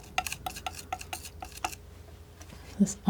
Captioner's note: tapping